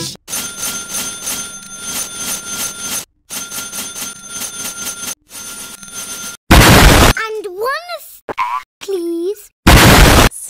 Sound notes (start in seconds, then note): 6.5 much needed explosion